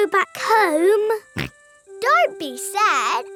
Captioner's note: snorts